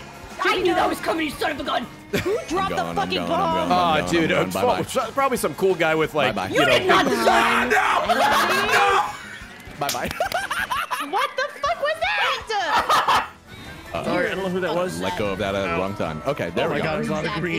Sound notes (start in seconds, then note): 0.2 laughs; 7.2 screams